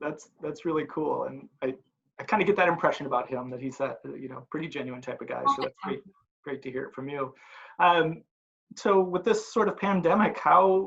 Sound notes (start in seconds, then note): 5.8 murmurs